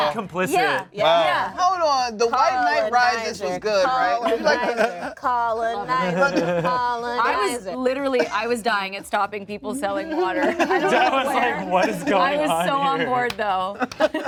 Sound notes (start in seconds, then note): 8.0 laughs; 10.3 cast laughs